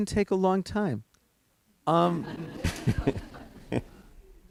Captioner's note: laughter